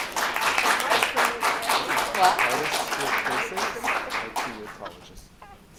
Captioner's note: clapping